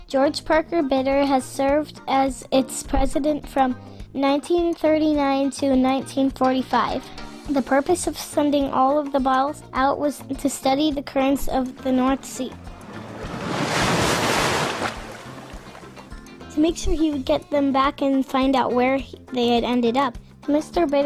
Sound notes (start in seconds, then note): 13.3 waves